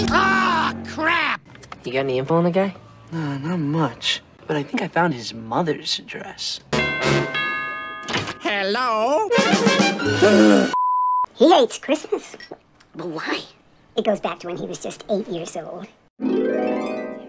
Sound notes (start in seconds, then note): 6.8 ding-dong